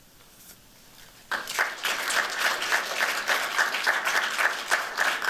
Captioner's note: applause